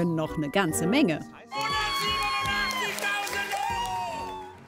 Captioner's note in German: Jubel, Kreischen